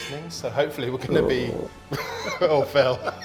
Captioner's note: gurgle